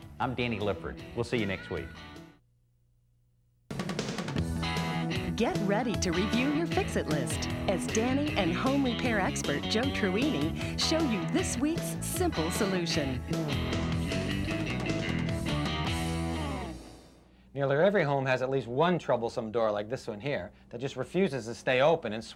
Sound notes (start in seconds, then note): 4.8 voiceover